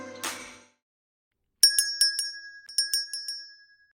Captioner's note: bell ringing